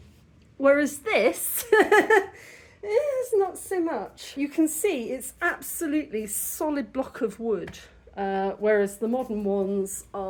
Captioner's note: laughing